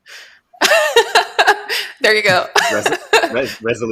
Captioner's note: laughs